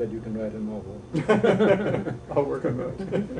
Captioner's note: laughing